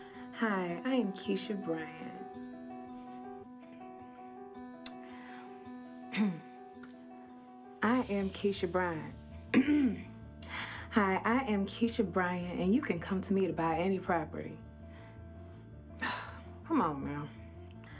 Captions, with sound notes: Hi, I am Keisha Bryant. (clears throat) I am Keisha Bryant. (clears throat) Hi, I am Keisha Bryant. And you can come to me to buy any property. (sighs) Come on now.